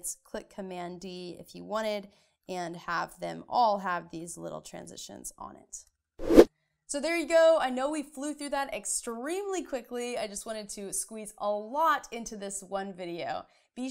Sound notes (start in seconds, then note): 6.2 air swooshing